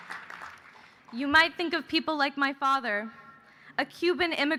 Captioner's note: cheers and applause